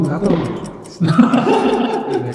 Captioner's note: everyone laughs